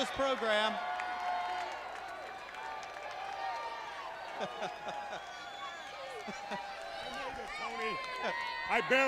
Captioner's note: crowd cheering